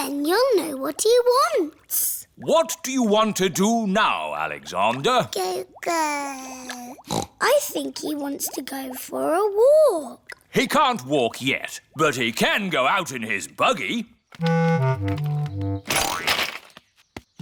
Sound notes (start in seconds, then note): 5.6 babbles; 7.0 snorts